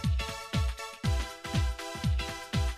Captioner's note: none